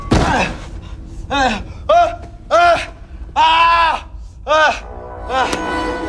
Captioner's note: screaming